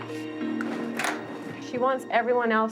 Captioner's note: knock on door